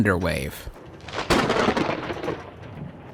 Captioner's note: rolling thunder cracks